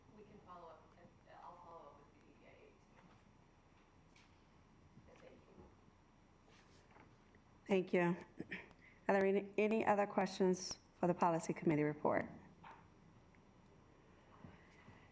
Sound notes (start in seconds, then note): 8.4 clears throat